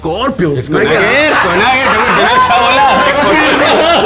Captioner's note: laughs